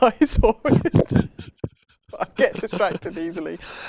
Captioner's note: laughs